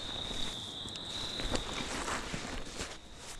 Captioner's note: tent zipper unzipping